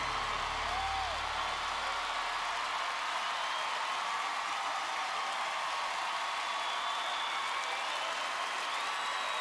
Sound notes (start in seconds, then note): 0.0 song ends; 2.8 applause and cheering